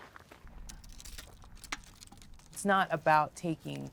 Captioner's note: scraping